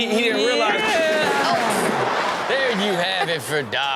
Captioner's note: Rob exclaims